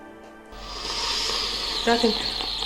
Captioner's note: slurping